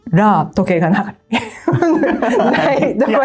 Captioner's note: laughs